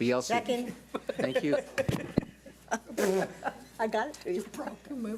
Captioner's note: laughing